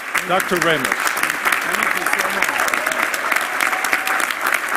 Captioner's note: applause